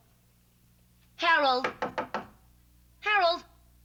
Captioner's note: knocks